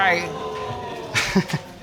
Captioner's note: chuckles